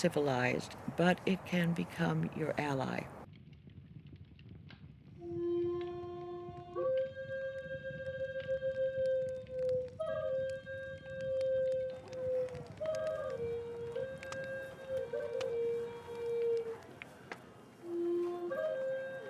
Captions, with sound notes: but it can become your ally. (fire crackles) (tribal flute music)